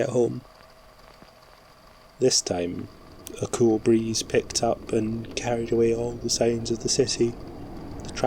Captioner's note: wind blows